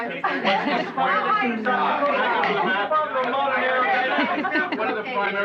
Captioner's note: chattering